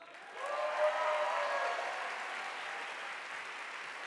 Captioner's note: audience applauding